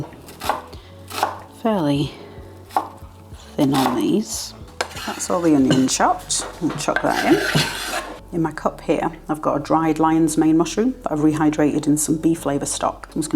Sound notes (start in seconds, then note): 3.6 chop chop chop